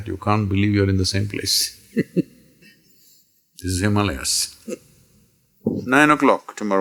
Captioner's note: laughs